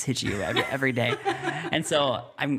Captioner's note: laughing